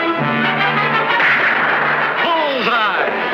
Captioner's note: gunfire pops